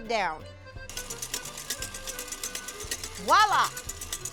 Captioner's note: mixer noises